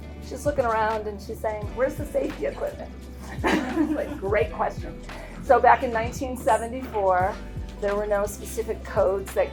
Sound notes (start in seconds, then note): 3.2 laughing; 3.2 attendees laughing